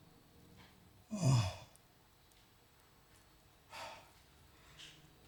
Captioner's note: Anderson groaning